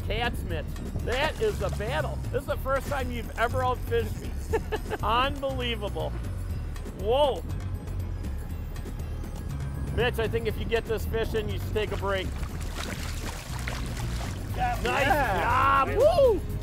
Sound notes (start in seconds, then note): 4.2 laughing; 11.6 splashing